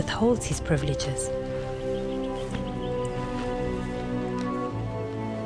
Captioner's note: animals calling